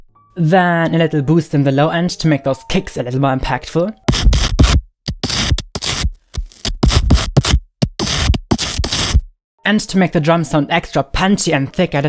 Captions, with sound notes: Then a little boost in the low end to make those kicks a little more impactful. (rhythmic digital sounds) To make the drums sound extra punchy and thick